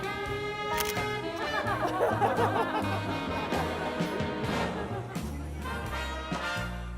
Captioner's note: shutter clicks; laughs; upbeat band music